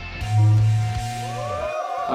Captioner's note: gentle upbeat music; feedback buzzing; crowd cheering